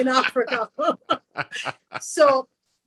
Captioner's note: laughs